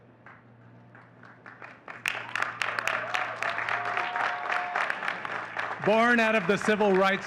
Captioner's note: audience cheering and clapping